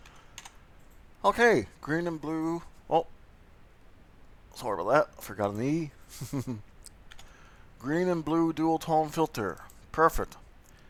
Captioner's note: chuckles